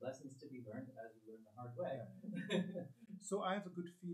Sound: laughs

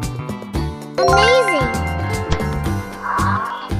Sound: giraffe sound

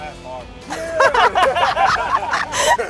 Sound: laughter

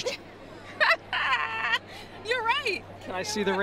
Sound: laughs

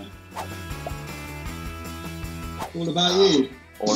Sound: swooshing

